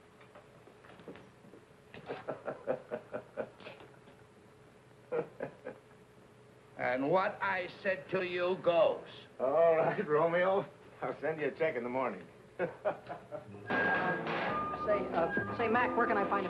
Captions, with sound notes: (Reno laughing) - And what I said to you goes. - All right, Romeo. I'll send you a check in the morning. (Reno laughing) (hammers banging) - Say, Mack, where can I find a pair of...